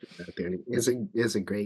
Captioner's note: chuckles